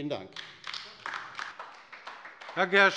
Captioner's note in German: Beifall bei der LINKEN